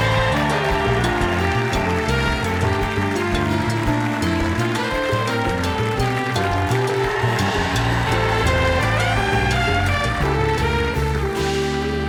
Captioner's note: cheers and applause